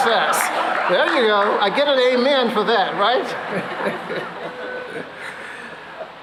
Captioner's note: laughter; chuckles